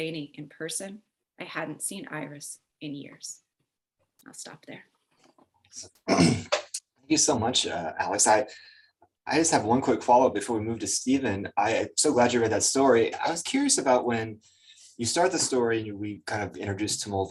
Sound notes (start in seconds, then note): 6.0 clears throat